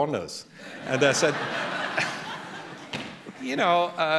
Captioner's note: laughter